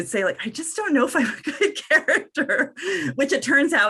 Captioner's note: laughs